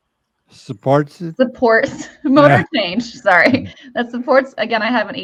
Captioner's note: chuckles